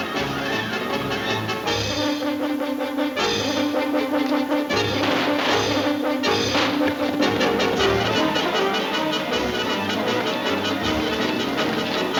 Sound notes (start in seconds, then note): 0.1 exciting music; 2.8 guns shooting; 8.9 exciting chase music